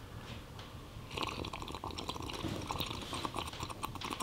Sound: slurping

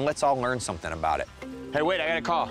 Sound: phone ringing

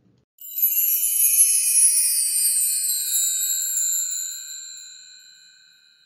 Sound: chimes

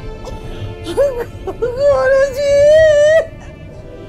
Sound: crying

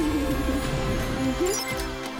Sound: beep!

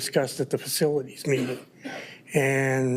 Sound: attendee coughing

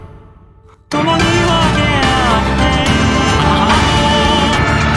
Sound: ahahaha!

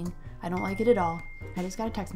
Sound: ding!

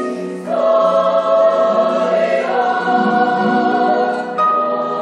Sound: choir speaks in foreign language

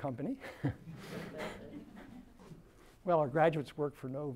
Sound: laughter

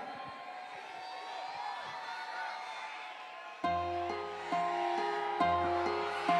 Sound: cheering

